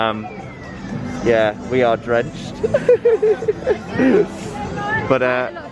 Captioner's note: laughter